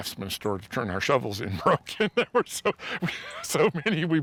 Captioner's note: laughs